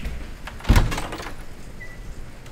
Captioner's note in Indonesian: Pintu terbuka